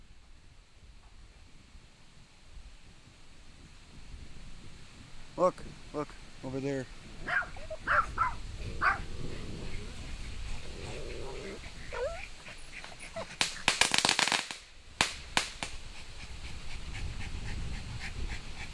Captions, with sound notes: - Look, look over there. (firecrackers exploding)